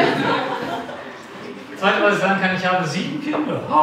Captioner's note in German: Klasse lacht